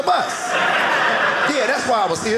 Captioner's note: audience laughing